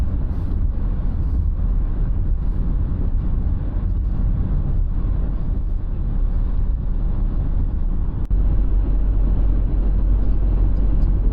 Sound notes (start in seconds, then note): none